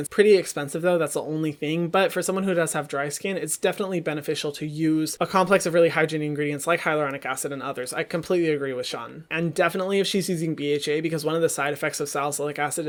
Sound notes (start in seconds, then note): none